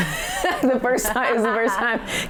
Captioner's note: laughing